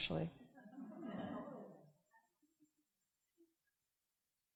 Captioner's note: audience chuckling